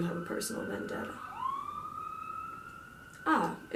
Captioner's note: police sirens go